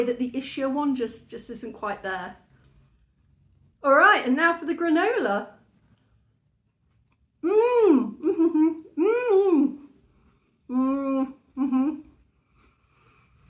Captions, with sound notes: that the Ishyo one just isn't quite there. All right. And now for the granola. [very happy mouth noises] Mmm. Uh-huh.